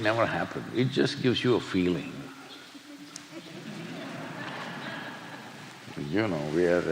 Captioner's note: laughter